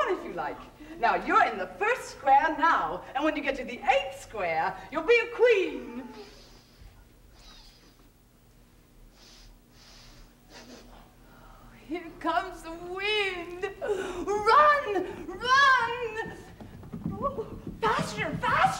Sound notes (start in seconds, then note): 6.4 sniffing